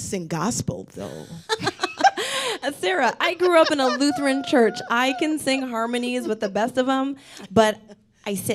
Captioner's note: laughs